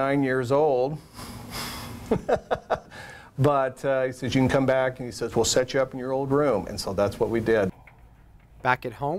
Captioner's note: laugh